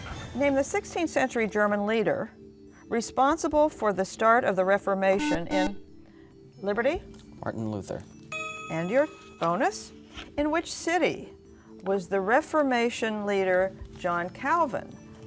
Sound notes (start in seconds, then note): 5.1 beeping; 8.3 ding